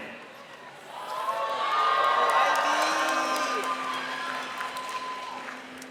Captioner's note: audience cheering and clapping